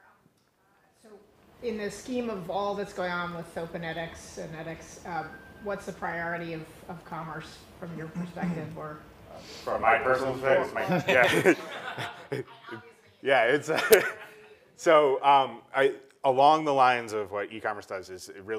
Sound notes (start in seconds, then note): 10.8 laugh; 14.0 laugh